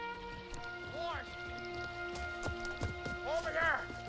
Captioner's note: hunter yells